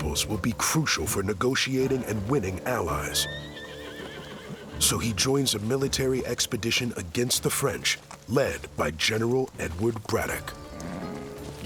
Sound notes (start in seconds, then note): 2.9 horse whinnies